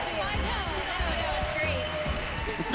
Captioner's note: cheers and applause